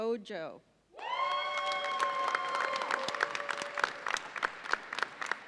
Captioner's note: audience cheers and applauds